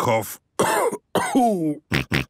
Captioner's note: cough; snort